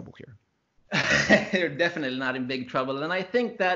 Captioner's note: laughs